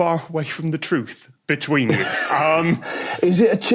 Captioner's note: wheezes